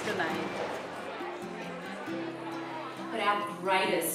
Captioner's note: crowd noise